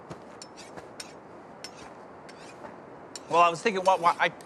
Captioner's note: knife scraping